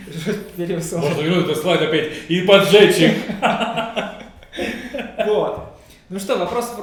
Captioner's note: laughing